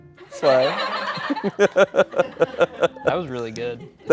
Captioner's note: everyone laughs